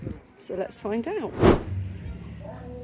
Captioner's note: woosh